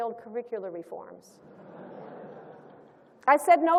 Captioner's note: laughter